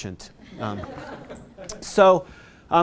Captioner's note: audience laughing